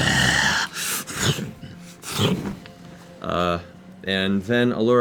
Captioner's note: menacing growl, wing-sounds